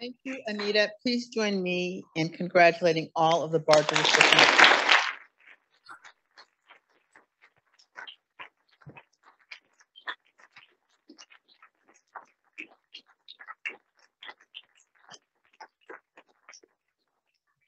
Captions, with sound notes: - Thank you, Anita. Please join me in congratulating all of the Barger recipients. (audience applauding)